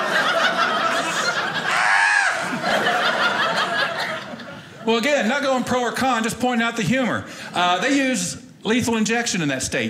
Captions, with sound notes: (screams) Well, again, not going pro or con just pointing out the humor. They use lethal injection in that state.